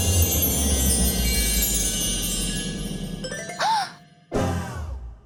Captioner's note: gasps